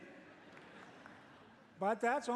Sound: laughter

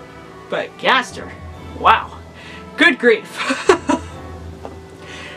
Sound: laughs

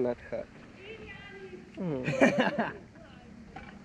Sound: laughter

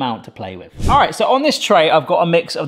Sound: screen whooshing

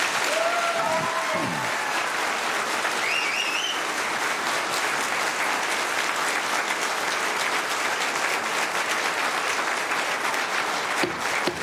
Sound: applause

